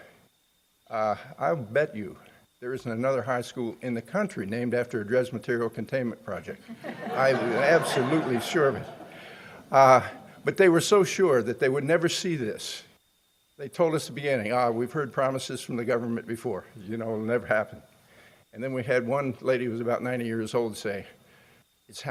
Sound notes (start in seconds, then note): 6.6 laughing